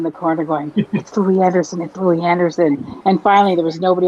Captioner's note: laughs